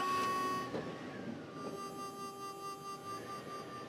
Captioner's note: truck starting